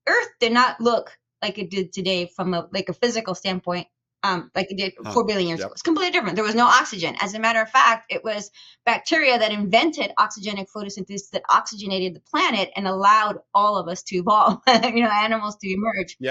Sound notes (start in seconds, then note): 14.3 chuckles